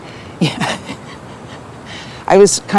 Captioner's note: laughs and nods